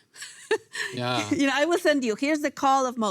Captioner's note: laughs